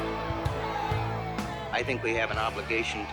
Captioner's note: crowd argues and riots